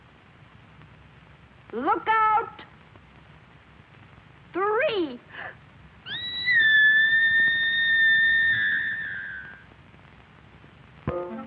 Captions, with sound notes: Two and a half. Look out. Three. [screaming]